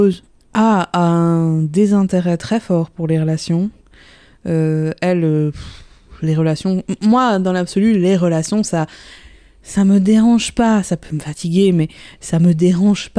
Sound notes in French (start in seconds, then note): none